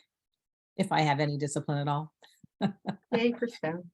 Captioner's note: chuckles